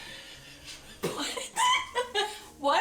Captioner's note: laughs